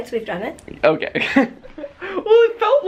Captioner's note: chuckles